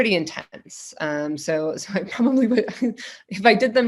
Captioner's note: laughing